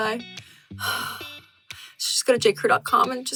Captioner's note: sighing